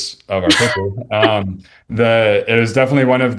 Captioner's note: chuckles